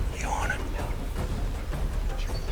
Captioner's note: whispering